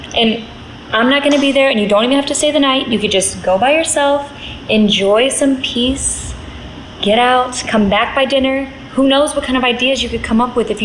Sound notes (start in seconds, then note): none